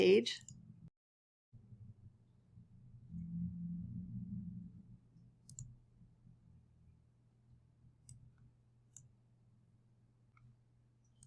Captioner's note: silence